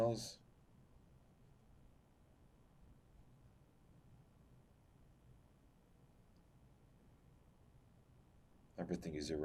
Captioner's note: pauses 8 seconds